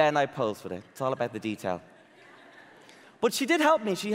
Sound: audience laughing

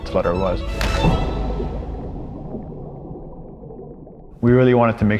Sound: water splashing

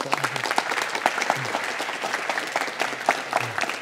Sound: audience applauds

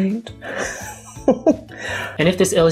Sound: laughs

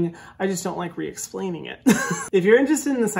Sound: giggling

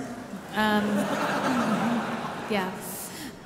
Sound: audience laughing

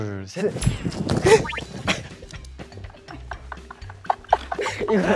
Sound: rocket launch; laughing

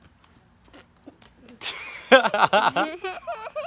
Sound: laughter at child

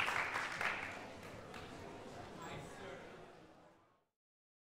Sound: audience chattering

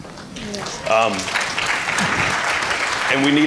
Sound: applause

